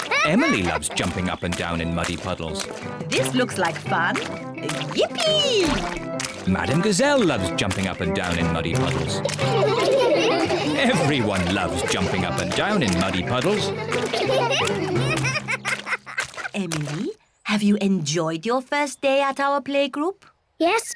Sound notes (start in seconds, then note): 9.5 all laugh; 14.4 laughs